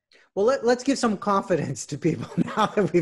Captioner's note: laughs